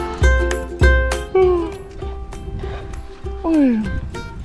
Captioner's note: yawns